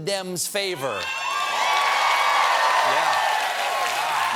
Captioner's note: cheers and applause